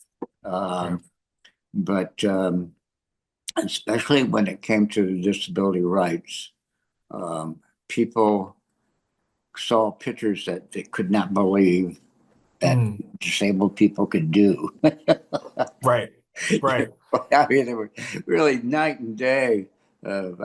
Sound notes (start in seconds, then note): 12.6 laughs